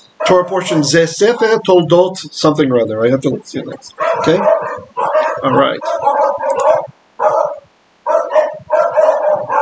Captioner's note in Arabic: بالعبرية